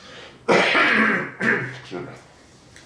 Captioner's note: coughing